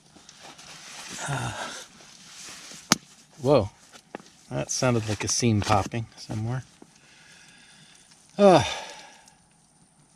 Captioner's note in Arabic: فرقعة